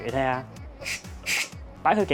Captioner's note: steam sound